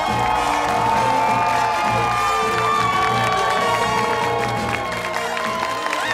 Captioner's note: cheers and applause